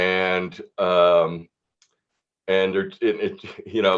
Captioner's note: chuckles